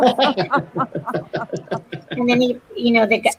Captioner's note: laughter